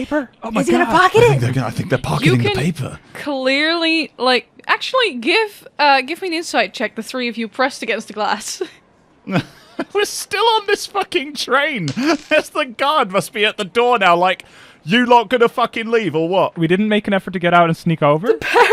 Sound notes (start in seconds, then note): 9.3 laughing; 11.8 dice clacks